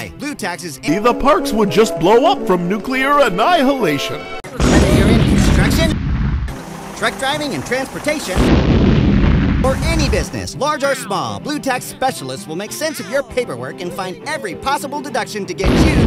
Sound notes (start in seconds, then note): 4.6 boom!!!; 8.4 boom!!!; 15.6 boom!!!